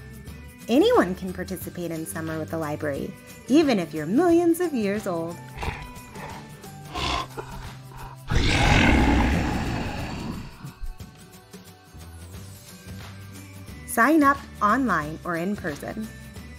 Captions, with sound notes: Anyone can participate in Summer with the Library ... ... even if you're millions of years old! (DINOSAUR GRUNTS AND ROARS) Sign up online or in person